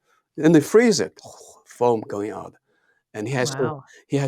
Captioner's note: gurgling